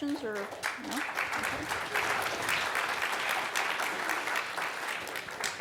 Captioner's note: audience clapping